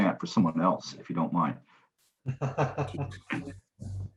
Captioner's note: laughter